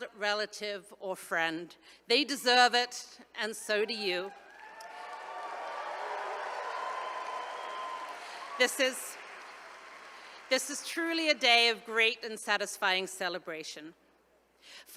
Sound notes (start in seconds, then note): 4.3 attendees cheering